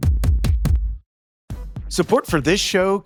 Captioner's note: thumping tones